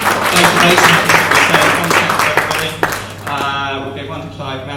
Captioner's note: applause